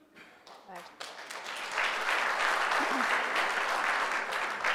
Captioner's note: applause